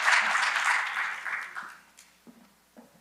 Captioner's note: audience applause